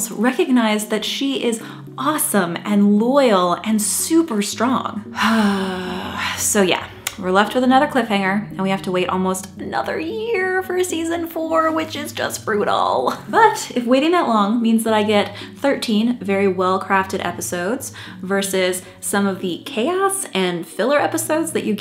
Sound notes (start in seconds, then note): 5.1 sighs